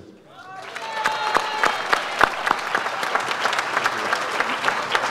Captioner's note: audience applauds